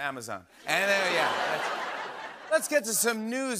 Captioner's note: laughter